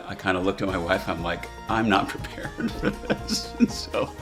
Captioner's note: laughing